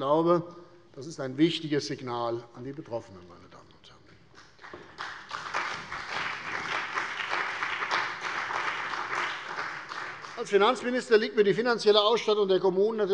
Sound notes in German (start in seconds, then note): 4.3 Beifall bei der CDU und dem BÜNDNIS 90/DIE GRÜNEN